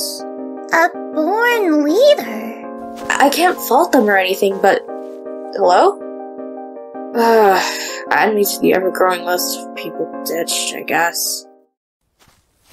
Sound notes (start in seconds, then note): 6.8 sigh